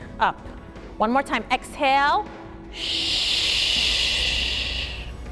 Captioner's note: exhales sharply